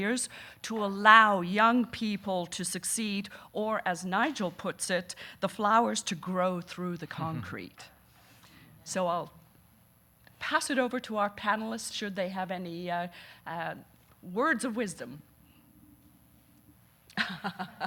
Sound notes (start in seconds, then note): 15.9 laughing